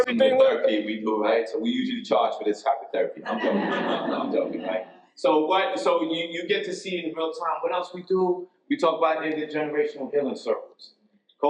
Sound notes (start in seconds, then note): 3.2 audience laughs